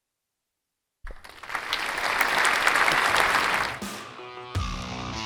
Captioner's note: audience applauds; raucous instrumental music